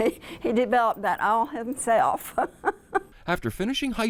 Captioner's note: laughs